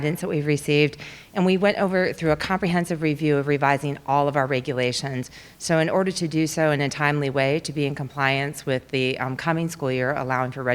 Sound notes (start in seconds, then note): none